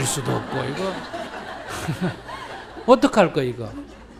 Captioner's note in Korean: 청중 웃음